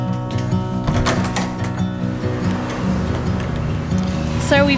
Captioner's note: handle clicking